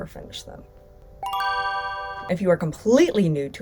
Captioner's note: ding!